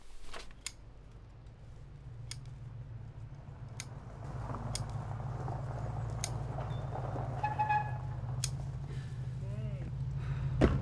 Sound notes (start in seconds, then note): 7.4 car horn sounds